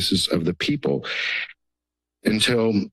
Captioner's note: inhales